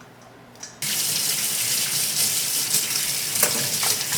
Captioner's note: running water